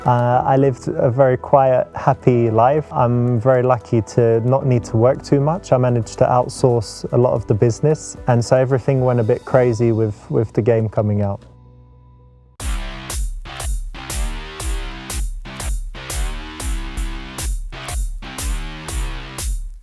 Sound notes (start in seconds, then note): none